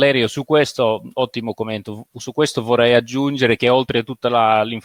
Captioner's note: speaking in foreign language